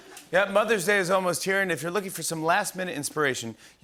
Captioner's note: none